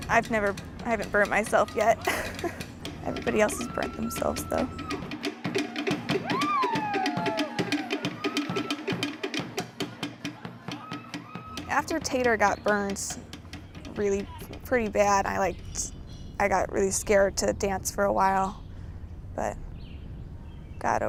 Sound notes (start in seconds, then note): 2.0 laughing; 5.1 polynesian drumming; 6.4 yelling